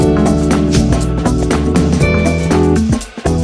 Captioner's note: swish